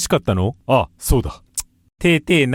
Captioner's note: tch